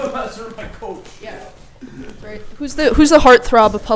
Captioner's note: laughs